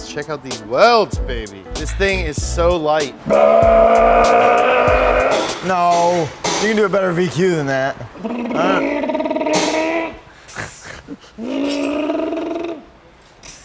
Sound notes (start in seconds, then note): 3.5 mimics car exhaust; 8.2 mimics car exhaust